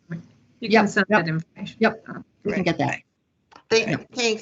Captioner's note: laughs